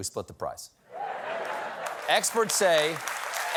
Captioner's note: applause